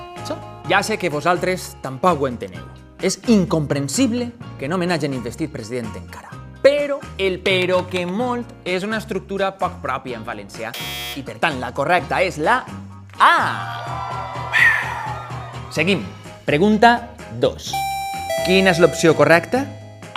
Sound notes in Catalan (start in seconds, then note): 13.5 imita ovació